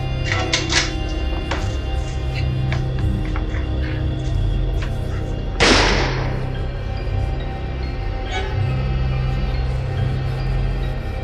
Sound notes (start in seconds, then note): 0.1 rifle cocks; 5.6 gunshot